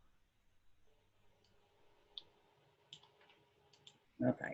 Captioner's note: clicking computer